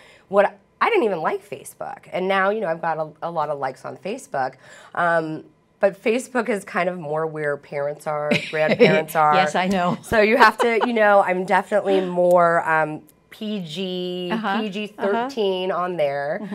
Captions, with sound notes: What -- I didn't even like Facebook and now, you know I've got a lot of likes on Facebook. But Facebook is kind of more where parents are, [laughter] grandparents are. >> Yes, I know. [laughing] >> So you have to -- you know I'm definitely more PG/PG13 on there.